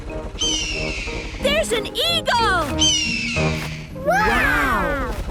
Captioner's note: eagle shriek; eagle shriek